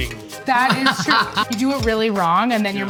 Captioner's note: laughs